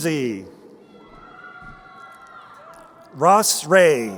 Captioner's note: crowd cheering